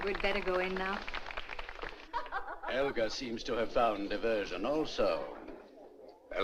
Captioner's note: guests Applauding; woman Laughing